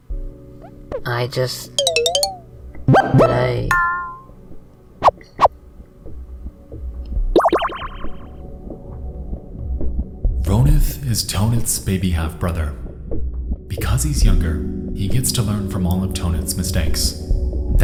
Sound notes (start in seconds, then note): 4.7 menu sound effects